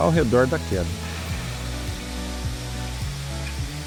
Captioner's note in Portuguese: Som ambiente